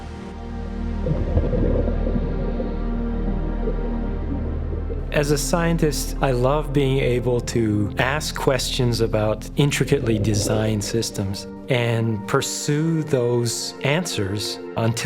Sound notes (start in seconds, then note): 0.4 water burbling; 1.1 mellow music